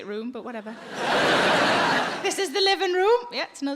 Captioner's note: crowd laughs